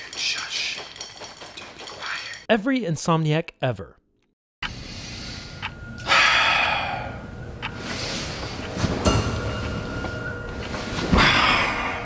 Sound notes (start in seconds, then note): 6.0 sighs; 9.2 dramatic music